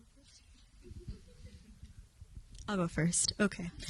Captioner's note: audience chuckling